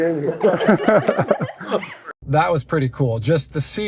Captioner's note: laughing